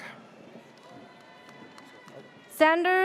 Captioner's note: audience cheers